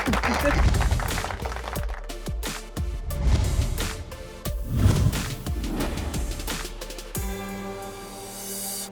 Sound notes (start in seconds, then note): 0.5 contemplative music; 3.0 whoosh